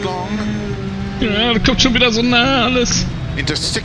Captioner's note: weepy